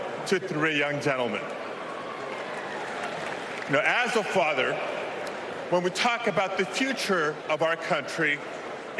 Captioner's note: applause